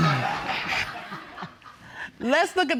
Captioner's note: audience laughs